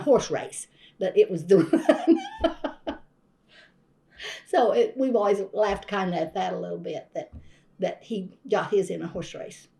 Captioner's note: laughs